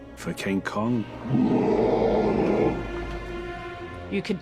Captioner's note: king kong roars